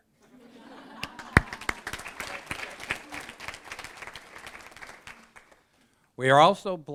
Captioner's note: applause